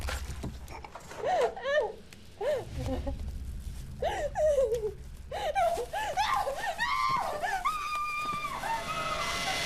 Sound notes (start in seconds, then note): 1.0 Sara sobbing; 6.1 Sara screaming